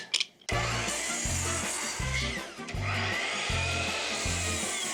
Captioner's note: saw buzzing